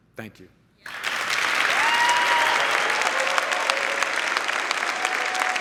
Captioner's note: crowd applauding